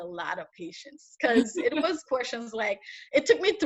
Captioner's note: interviewer laughs